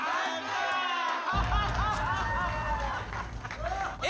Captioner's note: laughter